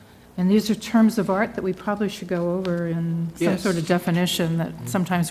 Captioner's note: cough